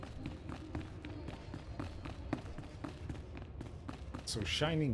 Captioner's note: footsteps